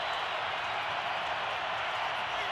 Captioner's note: crowd cheering